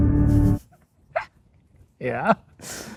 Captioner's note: laughs